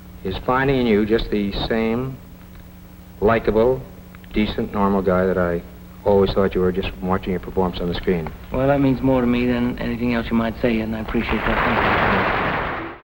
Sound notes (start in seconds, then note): 11.2 audience applauding